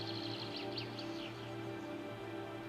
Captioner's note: birds tweeting; tense music